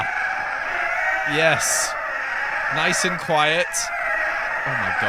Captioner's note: hundreds of happy ghasts cooing